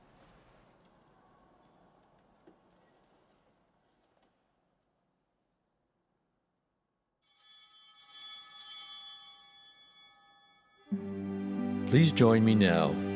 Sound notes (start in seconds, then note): 7.2 bell ringing